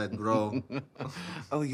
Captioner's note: chuckles